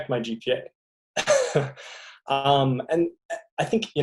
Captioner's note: laughing